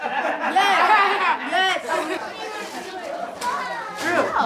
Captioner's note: people laughing; kids mumbling